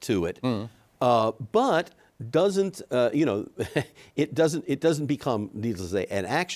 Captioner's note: chuckles